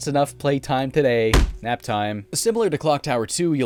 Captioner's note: smack